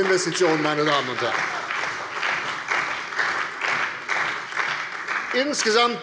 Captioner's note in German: Beifall bei der CDU und dem BÜNDNIS 90/DIE GRÜNEN